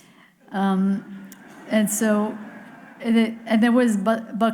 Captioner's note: audience laughing